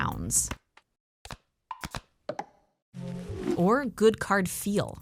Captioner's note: Balatro cards fwipping and plunking